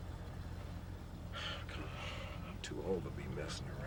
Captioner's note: sighs